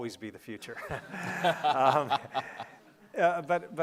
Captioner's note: laughing